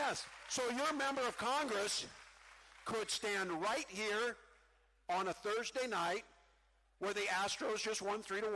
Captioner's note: cheering